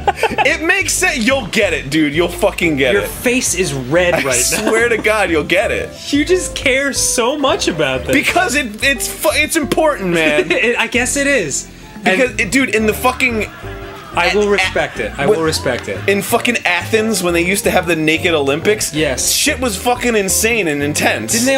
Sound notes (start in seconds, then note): 8.3 stammering; 10.1 laughing